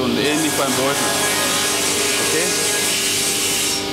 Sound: saw noise

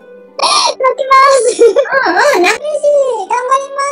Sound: laughs

